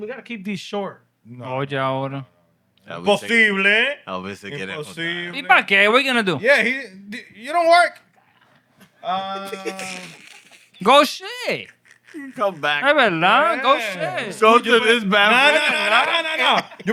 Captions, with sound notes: We got to keep these short. (Speaking Spanish) What are you going to do? Yeah, he-- you don't work. (Laughing) (Speaking Spanish) Go shit. Come back. Come back. (Speaking Spanish) No, no, no, no, no, no, no.